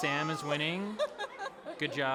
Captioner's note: laughs